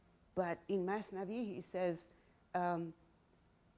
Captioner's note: speaking in Farsi